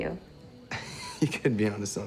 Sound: laughing

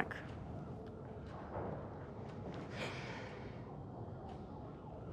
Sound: siren wails

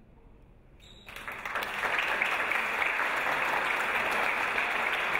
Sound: audience applause

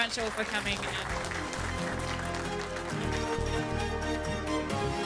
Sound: applause and music

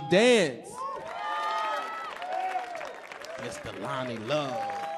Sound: audience cheering; audience clapping

